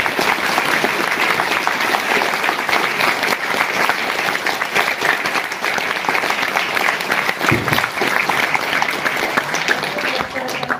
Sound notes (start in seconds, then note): 5.8 applause